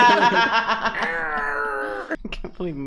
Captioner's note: imitating the noise